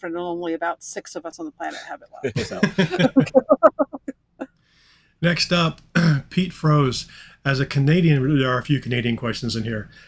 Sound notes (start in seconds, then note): 2.2 all laughing; 6.0 clearing throat